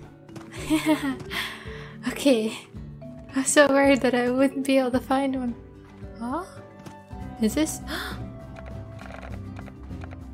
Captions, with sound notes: (laughter) Okay I was so worried that I wouldn't be able to find one oh? Is this-? (gasp) [intense music]